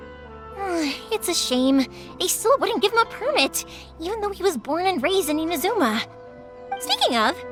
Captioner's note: sigh